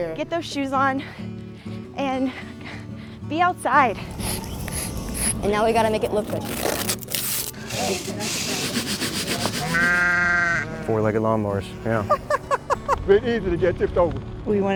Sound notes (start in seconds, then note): 3.9 chalk scratching; 6.7 tape tearing; 7.8 brushes scrubbing; 9.7 sheep baaing; 11.9 speaker laughing